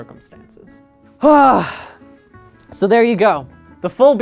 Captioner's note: sigh